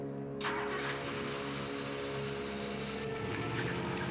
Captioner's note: engine rumbling